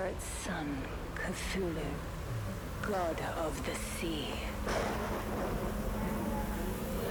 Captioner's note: thunder rumbling